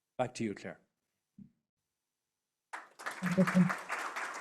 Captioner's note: applause